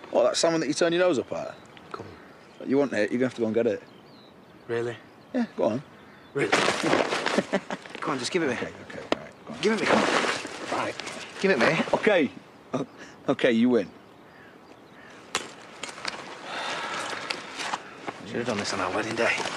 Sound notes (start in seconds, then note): 7.3 laughs teasingly; 16.4 sighs